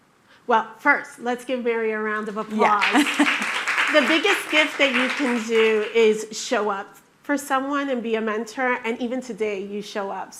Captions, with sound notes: - Well, first, let's give Mary a round of applause. - Yeah. (chuckles) (attendees clapping) - The biggest gift that you can do is show up for someone and be a mentor, and even today you show up.